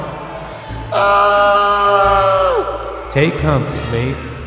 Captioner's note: scream